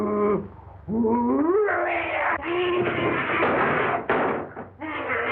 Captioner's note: still Growling